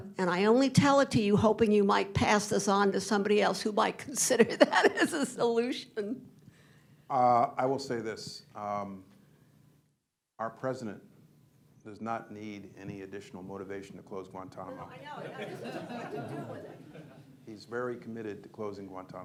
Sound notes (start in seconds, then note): 4.4 laughs; 14.7 laughter